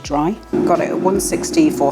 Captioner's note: air fryer whirring